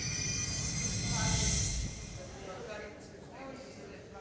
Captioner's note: indistinct chatter